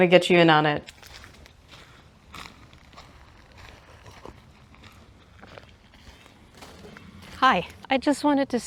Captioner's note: fir cones crunching underfoot